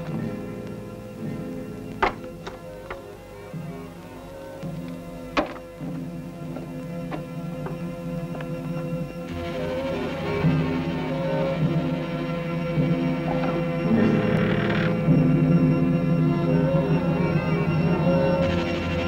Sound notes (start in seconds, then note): 13.9 door creaks; 14.5 ominous music